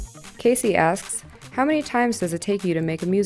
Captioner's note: voiceover